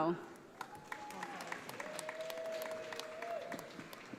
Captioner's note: audience applauding